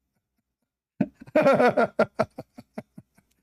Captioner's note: Ketawa